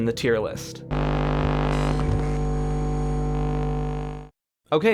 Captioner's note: electronic hum